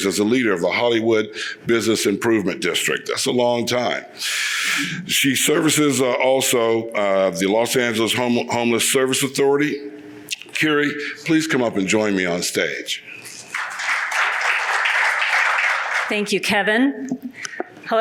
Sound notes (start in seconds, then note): 13.4 audience applauds